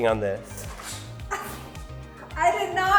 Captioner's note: laughs